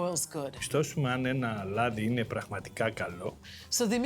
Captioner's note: speaking in greek